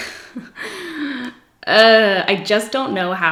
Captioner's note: giggles; groans